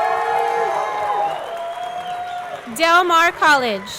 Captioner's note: audience clapping; audience cheering